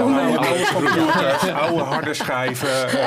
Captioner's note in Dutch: gelach